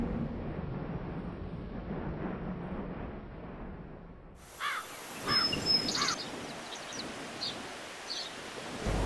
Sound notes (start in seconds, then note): 4.5 birds tweet